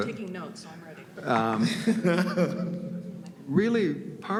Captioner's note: laughs